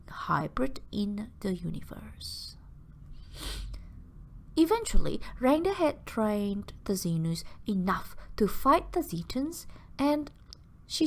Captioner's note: sniff